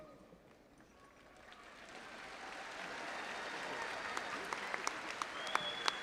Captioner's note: audience applauding and cheering